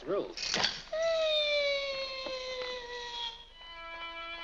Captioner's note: loud click; Harlan makes whining sound; violin plays unsteadily